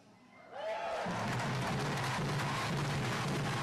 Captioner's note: cheers and applause